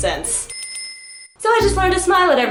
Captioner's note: Majora's Mask Tatl alert sound effect